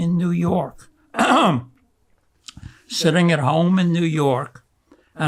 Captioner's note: clears throat